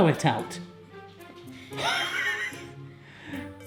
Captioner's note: laughing